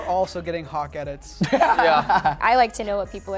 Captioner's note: laughter